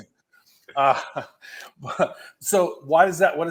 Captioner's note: chuckles